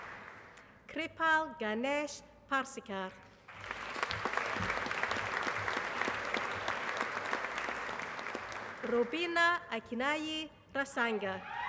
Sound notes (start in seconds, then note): 0.0 applause; 3.4 applause